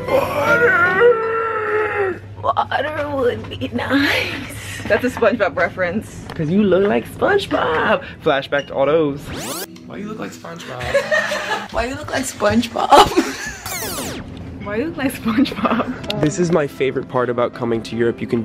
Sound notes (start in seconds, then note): 0.0 laughing; 9.2 tape whirring; 10.7 laughing; 13.5 tape screeching; 15.6 laughing